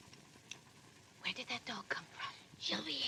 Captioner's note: whispers